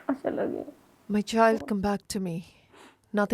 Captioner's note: speaking alternate language